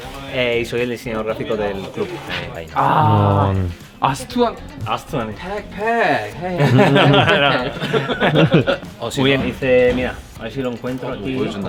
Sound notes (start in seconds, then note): 2.0 impressed